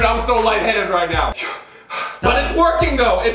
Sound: panting

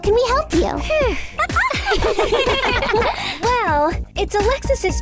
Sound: giggling

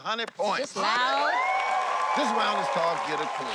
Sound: cheering, applauding

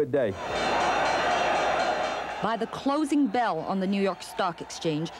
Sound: bell clangs

